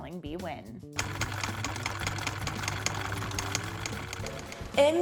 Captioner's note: machine clicking